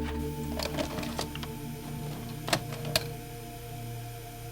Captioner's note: VHS player clicks